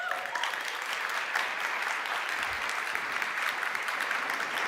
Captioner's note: audience claps